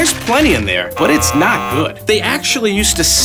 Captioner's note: scoreboard buzzing